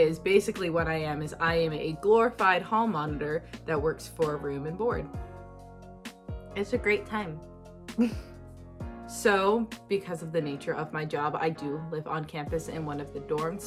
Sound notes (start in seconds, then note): 8.0 chuckles